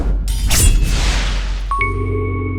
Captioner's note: swoosh Sound; sword Slash Sound; intro Jingle